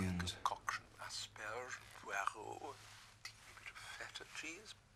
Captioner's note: speaking in foreign language